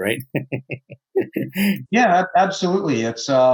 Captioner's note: chuckles